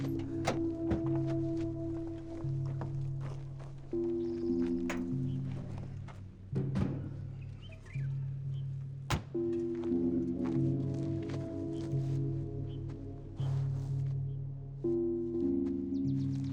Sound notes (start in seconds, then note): 4.2 birds singing; 9.4 ominous music